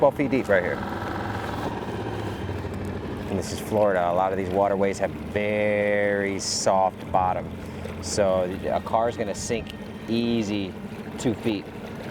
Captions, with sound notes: 12 feet deep right here. (gentle music continues) (motor droning) And this is Florida. A lot of these waterways have very soft bottom. So a car's gonna sink easy two feet.